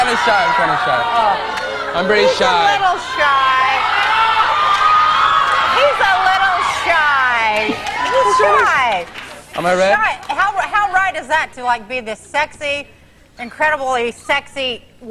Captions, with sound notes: - I'm kind of shy. I'm kind of shy. I'm very shy. - He's a little shy. (audience cheering) He's a little shy. He is shy. - Am I red? - How right is that? To be the sexy, incredibly sexy,